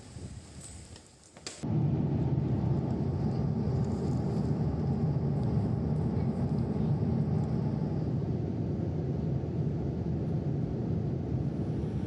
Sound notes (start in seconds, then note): 1.3 quiet airplane rumble